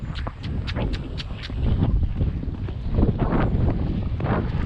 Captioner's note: clicks tongue